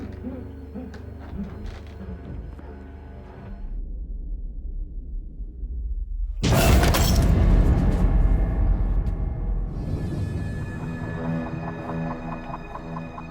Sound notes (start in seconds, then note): 6.4 crashing